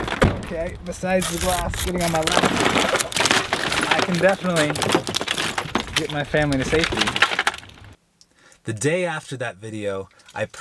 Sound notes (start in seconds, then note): 0.2 glass shattering; 2.1 glass shattering